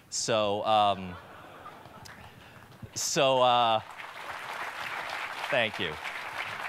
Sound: laughter and clapping

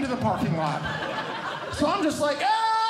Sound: audience Laughing; yelling

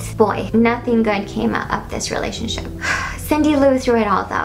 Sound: sigh

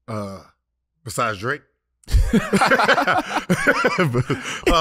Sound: all laughing

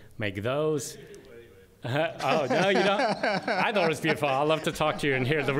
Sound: laughter

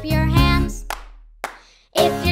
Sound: clapping

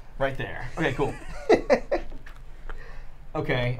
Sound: laughing

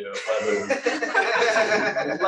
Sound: laughter

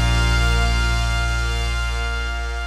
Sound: none

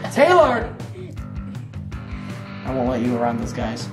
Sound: laughter

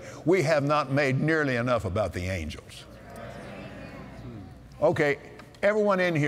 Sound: audience Agrees

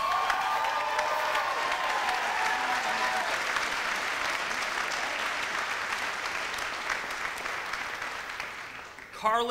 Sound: audience applauds

